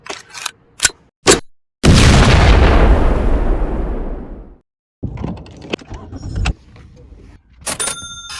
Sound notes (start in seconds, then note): 1.8 explosion